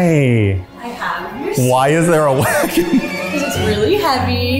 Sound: laughing

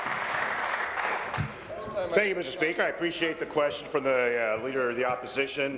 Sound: applause

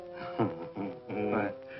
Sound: chuckling

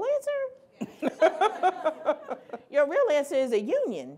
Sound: laughing

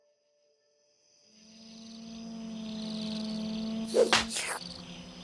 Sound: crickets chirping

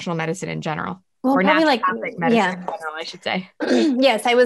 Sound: faintly speaking

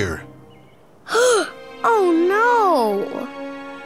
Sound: gasps

